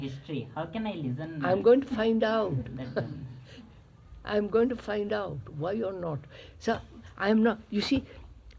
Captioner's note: laughs